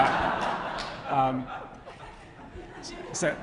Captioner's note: laughter